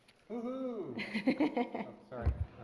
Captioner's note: laughter